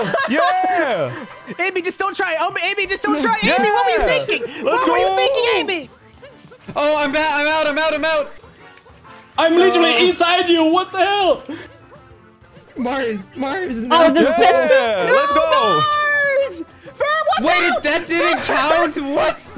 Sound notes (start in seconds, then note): 0.0 laughs; 2.9 yells